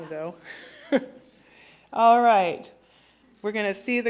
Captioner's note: laughter